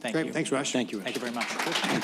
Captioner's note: applause